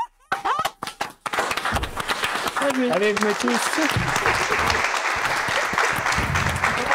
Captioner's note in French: Applaudissement & rires